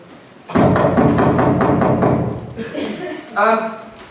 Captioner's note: knocking